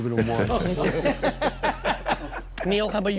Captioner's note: laughing